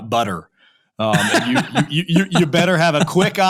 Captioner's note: laughing